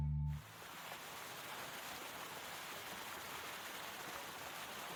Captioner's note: water flowing